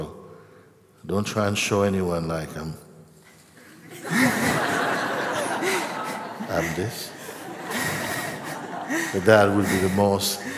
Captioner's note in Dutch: gelach